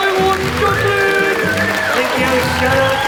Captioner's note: audience applauds